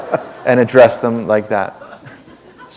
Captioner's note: laughter